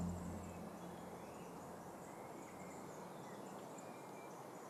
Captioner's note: birds chirping